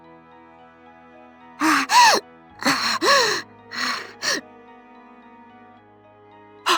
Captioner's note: panting